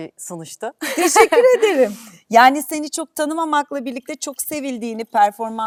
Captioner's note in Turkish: kahkaha